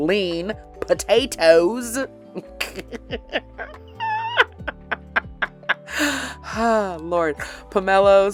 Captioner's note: cracks up laughing